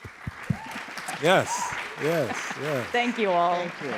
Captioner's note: applause